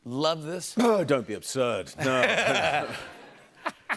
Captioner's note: laughter